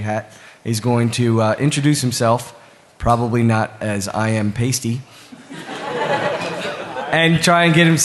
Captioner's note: laughter